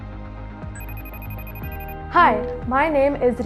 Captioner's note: phone rings